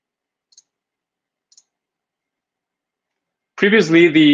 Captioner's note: mouse clicking